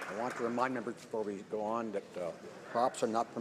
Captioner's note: some Applause